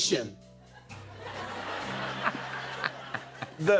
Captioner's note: laughter